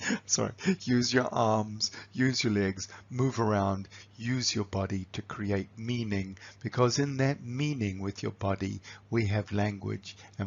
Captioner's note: laughs